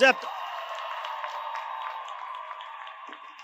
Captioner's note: audience cheers